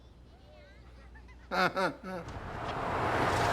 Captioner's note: fake laugh